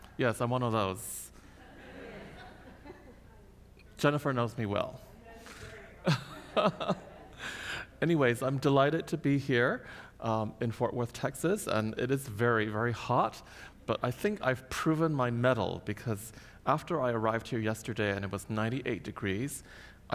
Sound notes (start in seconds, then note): 1.5 audience laughs; 6.0 laughs